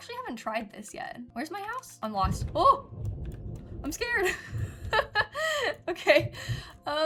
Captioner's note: thunder